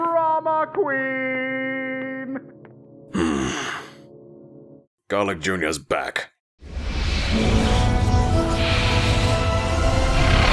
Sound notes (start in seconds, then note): 3.1 sigh